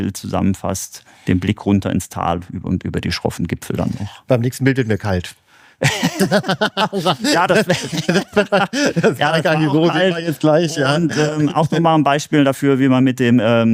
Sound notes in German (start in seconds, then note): 5.8 gelächter